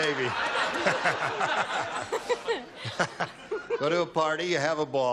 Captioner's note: laughter